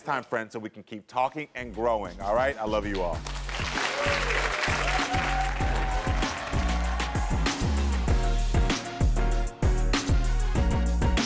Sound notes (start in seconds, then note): 3.5 audience cheering; 5.8 upbeat music